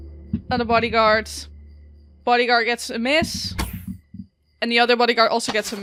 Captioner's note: dice thumps; arrow zooms past